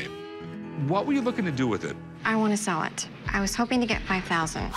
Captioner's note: none